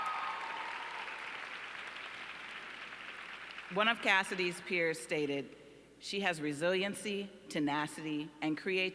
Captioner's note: applause